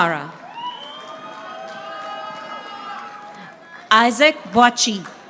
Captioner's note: audience applauding